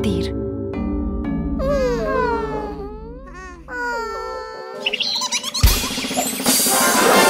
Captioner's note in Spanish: Sonido de pájaro